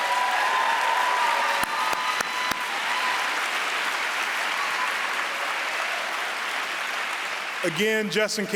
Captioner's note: applause